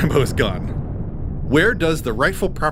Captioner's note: bomb exploding